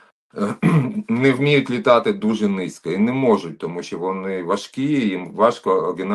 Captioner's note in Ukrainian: прочищення горла